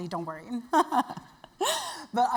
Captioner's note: laugh